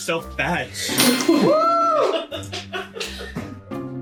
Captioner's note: pity laughs